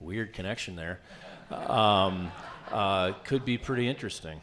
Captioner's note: audience laughs